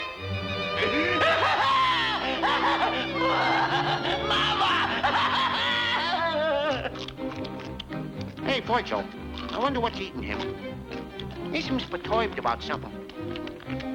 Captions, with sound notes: (farmer crying) - Wah! Mama! (crying) (gophers chomping) - Hey, Virgil? I wonder what's eating him. He seems perturbed about something.